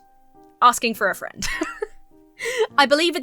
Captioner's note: laughs